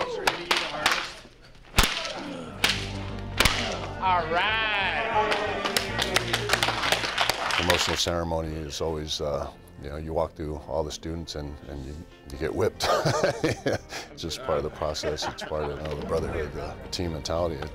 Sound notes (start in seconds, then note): 5.3 applause; 12.8 laugh